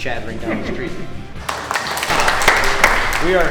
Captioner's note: applause